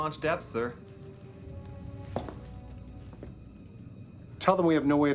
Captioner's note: footstep